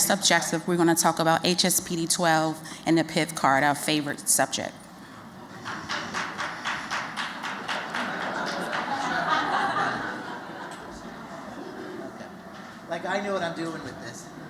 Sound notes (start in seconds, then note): 5.5 applause; 7.1 laughter